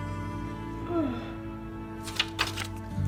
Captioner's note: yawning